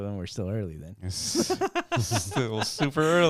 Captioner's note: laughing